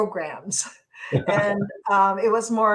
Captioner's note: both laugh